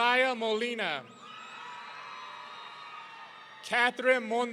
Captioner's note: audience cheering